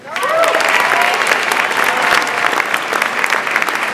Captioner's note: audience applauds